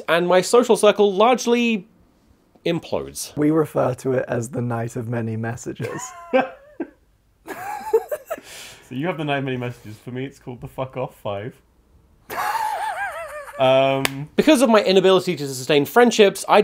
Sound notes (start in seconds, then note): 5.9 laughs; 12.3 laughs